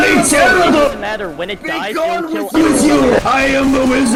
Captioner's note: In TF2's voicechat